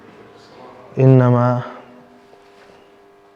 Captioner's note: Arabic